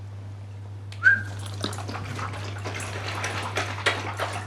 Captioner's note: whistles